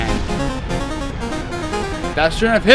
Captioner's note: electronic victory sound